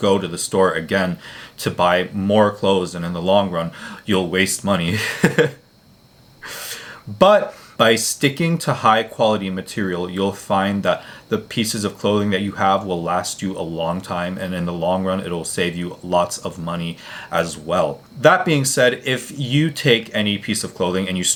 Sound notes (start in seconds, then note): 4.9 laughing